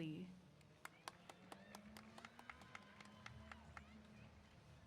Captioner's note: applause